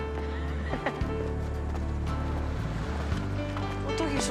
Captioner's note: chuckles